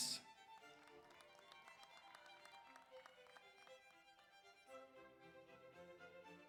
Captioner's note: audience applauds; audience cheers